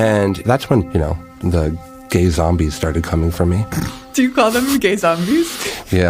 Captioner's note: laughs